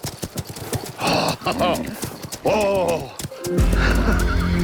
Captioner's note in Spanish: Exclamaciones